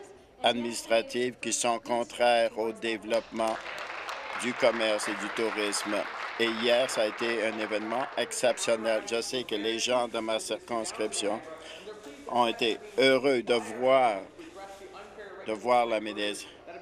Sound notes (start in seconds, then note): 6.2 applause